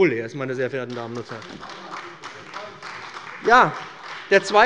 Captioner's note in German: Beifall bei dem BÜNDNIS 90/DIE GRÜNEN und der CDU